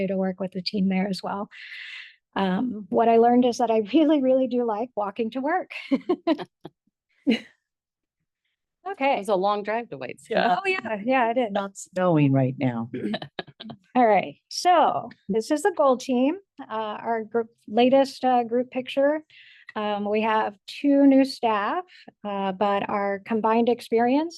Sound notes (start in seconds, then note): 5.8 board members laugh; 6.0 laughs; 13.0 group laughs